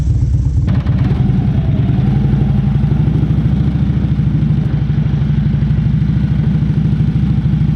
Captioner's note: engine revving